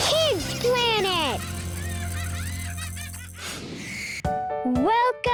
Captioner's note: children laughing